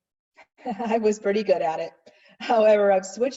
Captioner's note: chuckles